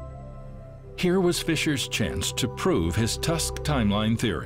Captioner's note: none